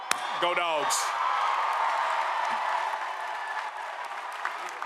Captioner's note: applause, cheers